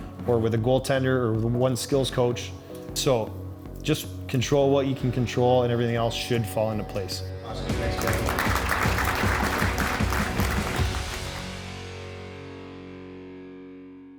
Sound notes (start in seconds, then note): 7.7 audience applauding